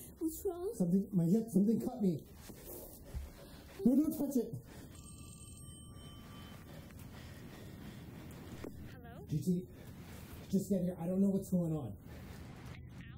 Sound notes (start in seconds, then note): 4.5 phone ringing